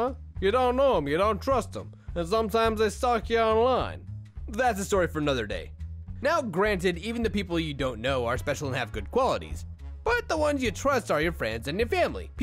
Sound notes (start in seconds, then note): 0.0 gansta Voice; 5.6 normal voice